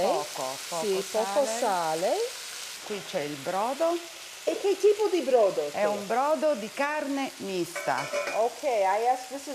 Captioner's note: speaking Italian